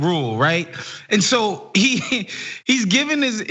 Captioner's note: laugh